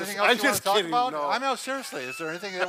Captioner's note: laughs